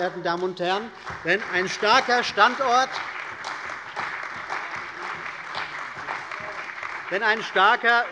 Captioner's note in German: Beifall bei der CDU und dem BÜNDNIS 90/DIE GRÜNEN